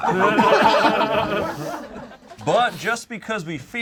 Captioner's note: group laughs